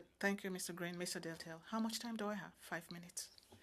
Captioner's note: speaking French